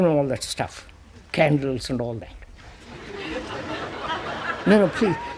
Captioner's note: laughter